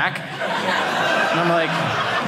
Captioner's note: audience laughing